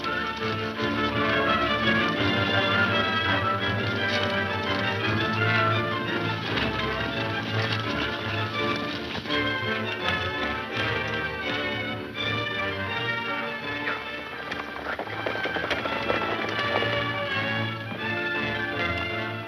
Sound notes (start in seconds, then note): 15.3 horses galloping